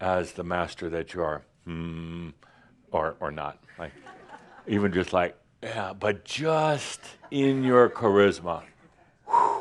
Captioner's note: a few chuckles